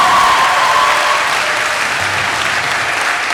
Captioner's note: applause